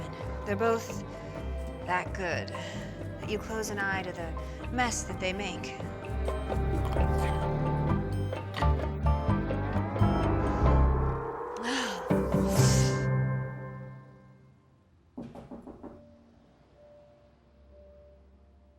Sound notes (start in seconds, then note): 11.6 gasp; 15.1 knocking